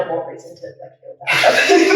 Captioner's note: laughing